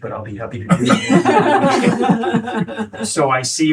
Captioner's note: laughing